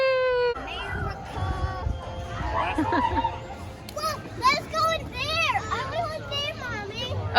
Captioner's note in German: lacht